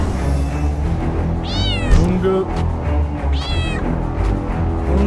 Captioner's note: creature start meowing bruh